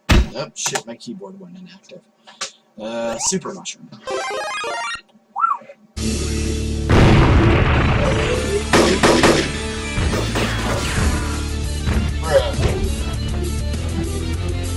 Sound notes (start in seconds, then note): 4.0 Super Mario Bros. Sound Effect; 6.9 thump; 6.9 gunshots; 12.4 thump